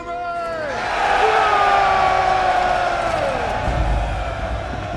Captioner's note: all cheering